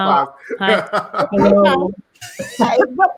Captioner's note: laughing